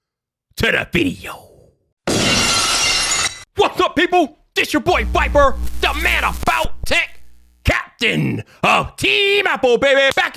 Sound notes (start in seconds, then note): 2.2 glass breaks